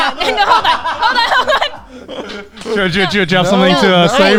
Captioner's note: laughs